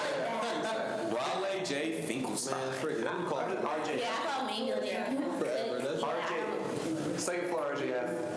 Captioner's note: students chatter